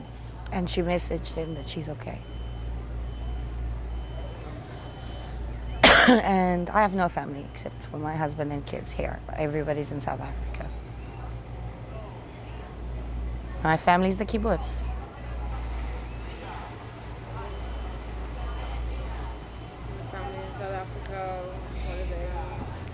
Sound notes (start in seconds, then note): 5.8 coughing